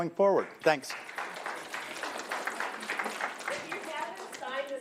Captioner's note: applauding